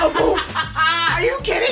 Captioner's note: laughing